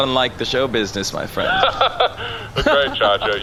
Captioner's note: laughs